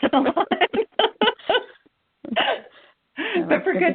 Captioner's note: laughter